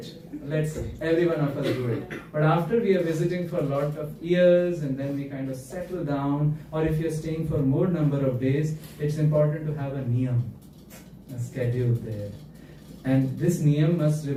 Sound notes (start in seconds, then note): 0.0 laughter; 1.5 clears throat